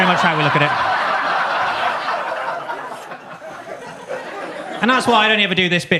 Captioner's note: audience laughs